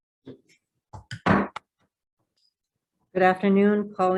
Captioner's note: gavel bangs